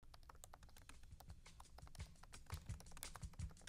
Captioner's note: typing sound